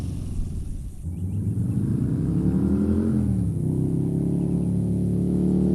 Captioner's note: motorbike roars, 5,500 RPM